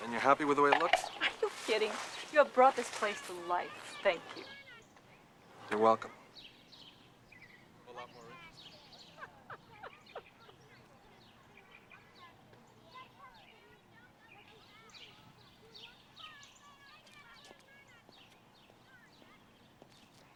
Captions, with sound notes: - And you're happy with the way it looks? - Are you kidding? You have brought this place to life. Thank you. - You're welcome. I'm a lot more interesting. (laughing) (birds chirping)